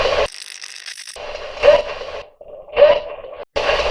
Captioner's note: radio scratching; radio voice